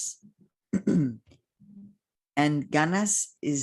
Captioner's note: clears throat